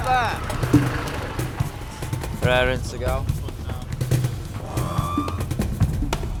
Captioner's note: bikers chattering; drumbeat patters